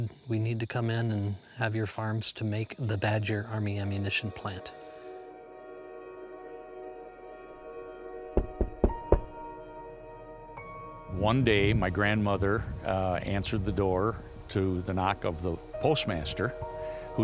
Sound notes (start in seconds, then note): 6.4 despairing music; 8.3 knocking on door